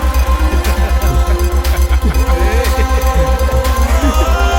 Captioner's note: laughs